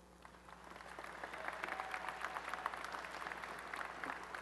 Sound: applause

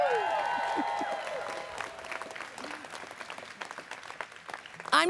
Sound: students cheering

